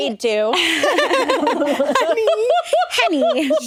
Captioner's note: all laughing